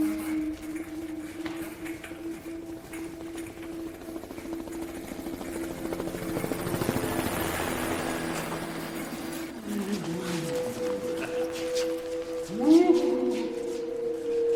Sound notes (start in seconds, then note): 4.1 helicopter sound; 10.9 evil laughter; 14.2 perturbing music continues